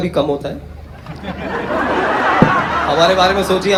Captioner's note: audience Laughter